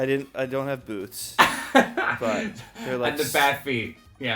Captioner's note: laughs